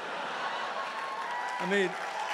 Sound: applause

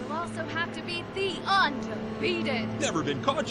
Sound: vehicle accelerating

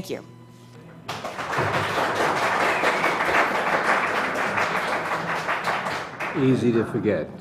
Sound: applause

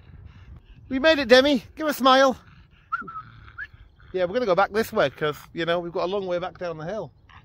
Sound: whistles

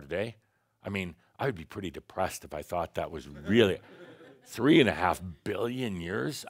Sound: some laughter

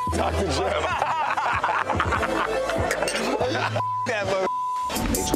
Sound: beep; both laughing; beep

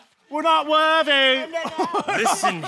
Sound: laughing

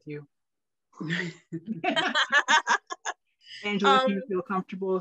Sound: laughing

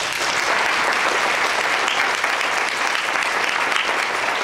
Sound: audience applauds

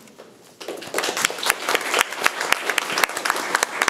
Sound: room applauds

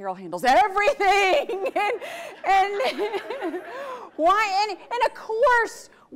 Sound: audience laughs

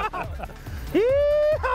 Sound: laughs

